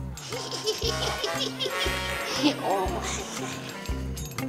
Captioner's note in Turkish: Çekirge vızıltısı